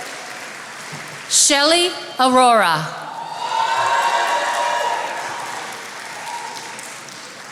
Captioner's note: attendees applauding; attendees applauding